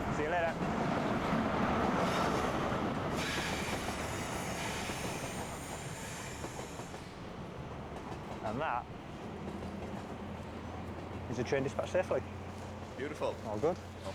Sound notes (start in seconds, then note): 1.8 train rumbling